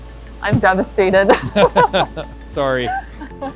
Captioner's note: laughing